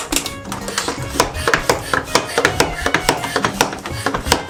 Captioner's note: pumping noise